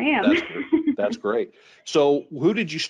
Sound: chuckling

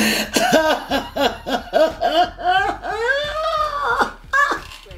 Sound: Becca cries

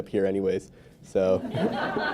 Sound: laughter

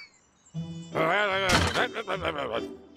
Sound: angry mumbling

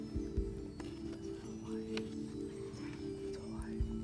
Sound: whispering

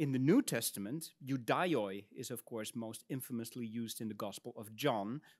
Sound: speaks in Latin

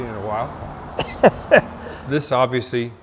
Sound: laughter

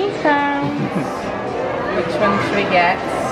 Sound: people chattering

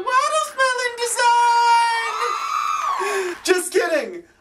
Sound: women cheering

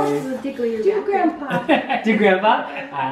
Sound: voiceover

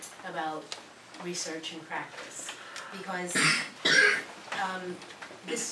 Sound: cough

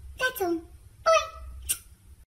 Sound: smooch

